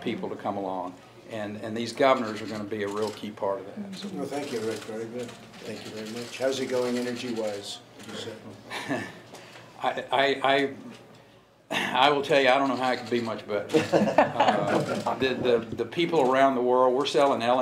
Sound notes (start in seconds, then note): 13.7 laughter